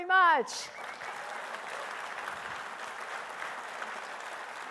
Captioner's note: attendees applauding